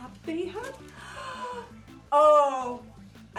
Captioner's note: gasps